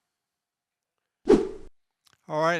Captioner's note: whooshing